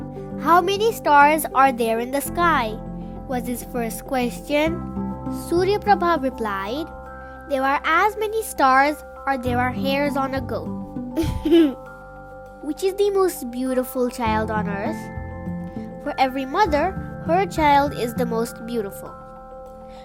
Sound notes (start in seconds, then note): 11.2 giggled